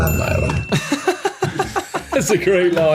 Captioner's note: laughs